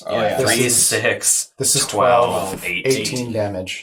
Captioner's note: everyone counting